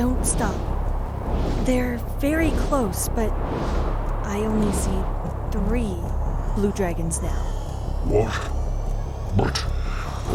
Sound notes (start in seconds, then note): none